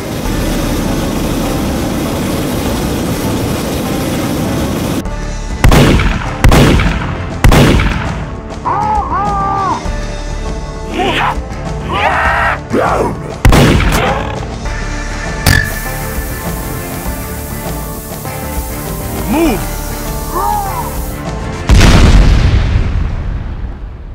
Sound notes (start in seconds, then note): 5.6 gunfire; 11.9 zombie screams; 13.3 zombie death grunt; 13.4 gunshot; 15.4 gas tank impact on ground; 20.5 surprised; 21.6 explosion